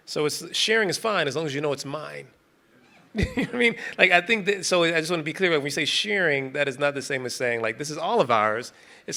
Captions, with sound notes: So it's, sharing is fine as long as you know it's mine. (participant laughing) You know what I mean? Like I think that, so I just wanna be clear when you say sharing, that is not the same as saying like, this is all of ours.